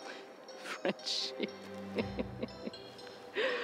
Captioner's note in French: rires